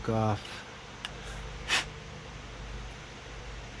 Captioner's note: blow